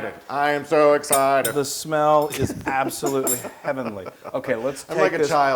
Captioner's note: laugh